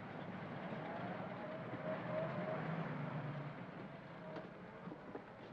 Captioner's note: vehicle rumbles by softly